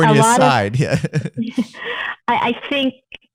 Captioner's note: laughter